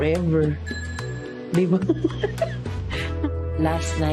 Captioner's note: laughs